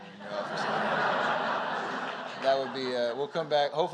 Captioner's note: laughter